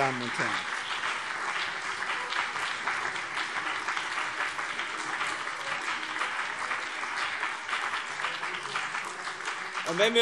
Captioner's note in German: Beifall BÜNDNIS 90/DIE GRÜNEN und CDU